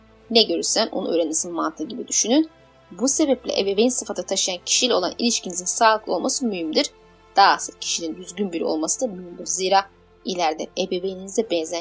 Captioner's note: Turkish